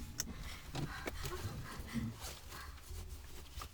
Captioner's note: Connie gasps